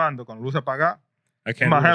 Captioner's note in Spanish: Hablando en idioma extranjero